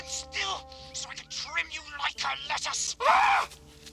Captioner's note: voice over tape recorder